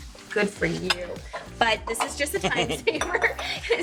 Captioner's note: Dean laughs